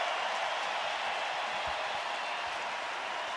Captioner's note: crowd cheering